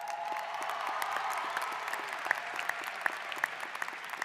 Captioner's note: applause